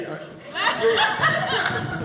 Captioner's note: audience laughing